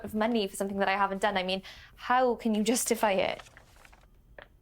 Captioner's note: paper rustles